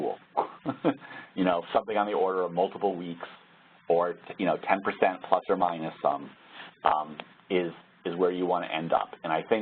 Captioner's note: laugh